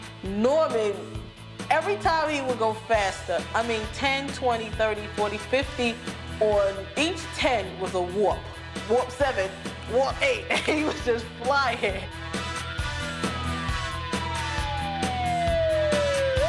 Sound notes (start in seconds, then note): 10.4 chuckles; 12.1 siren wails